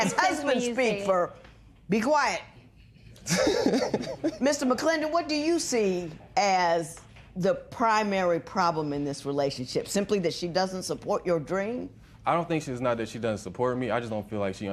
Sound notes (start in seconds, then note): 3.2 laughs